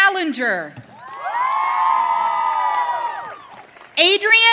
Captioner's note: audience cheering